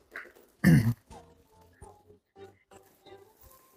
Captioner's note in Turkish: boğazını temizler